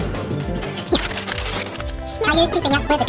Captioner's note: drumming; paper tearing; voice being fast forwarded